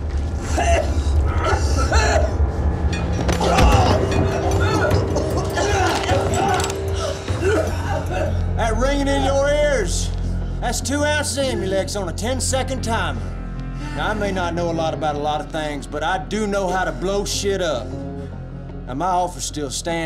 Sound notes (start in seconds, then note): 0.4 coughing; 3.4 grunting